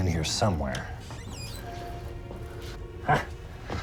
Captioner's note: cupboard Door Creaks Open